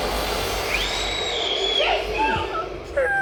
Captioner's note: swooshing; re-Enactor screaming; re-Enactor crying